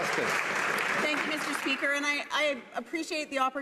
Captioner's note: some Applause